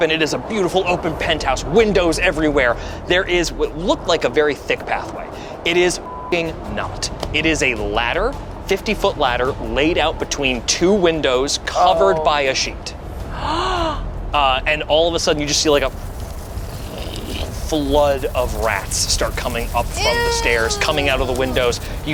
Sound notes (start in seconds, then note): 6.0 beep; 13.3 gasps